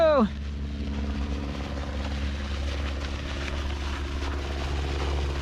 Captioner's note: eBike motor revving